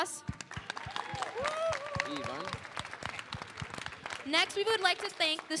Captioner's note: applause